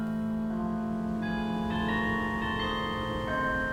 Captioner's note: bells ringing